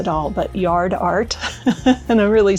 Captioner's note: laughs